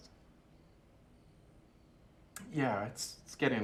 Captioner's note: crickets chirping